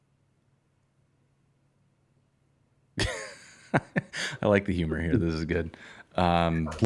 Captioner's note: laughter